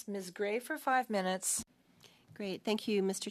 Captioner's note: speaking French